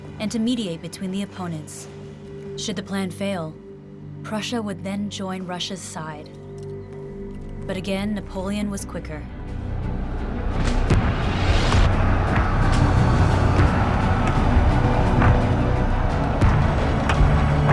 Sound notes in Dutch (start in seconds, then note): 10.1 intense muziek; 12.9 soldaten brullen